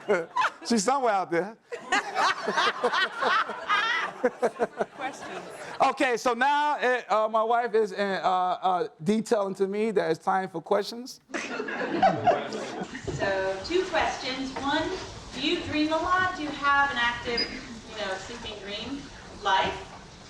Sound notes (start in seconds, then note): 1.8 laughs; 11.3 audience laughs